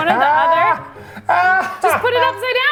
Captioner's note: laughing